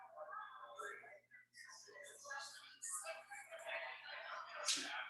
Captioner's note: people chattering indistinctly